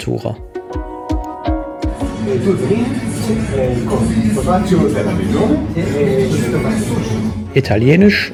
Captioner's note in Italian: parlando italiano